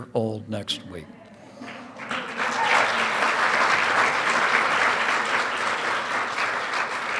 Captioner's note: applause